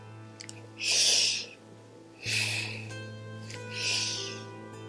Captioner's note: deep breathing